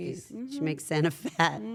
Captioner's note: laugh